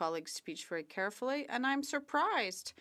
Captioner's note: speaking French